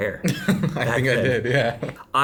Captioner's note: laughing